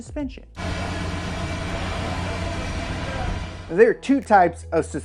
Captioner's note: engine idling